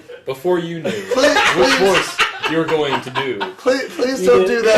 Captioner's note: laughs